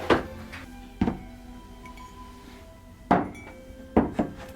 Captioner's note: mugs clanking